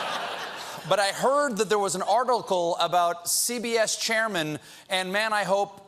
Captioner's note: laughter